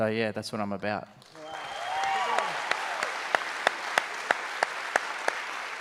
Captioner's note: audience applauds